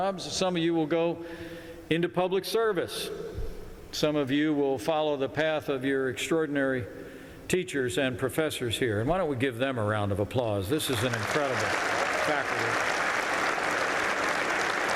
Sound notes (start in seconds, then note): 7.6 applause